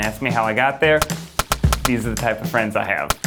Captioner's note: gun firing